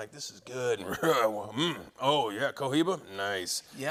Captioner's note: coughs